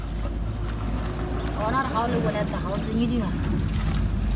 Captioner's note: non-english speech